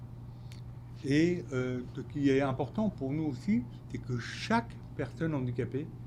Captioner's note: speaking French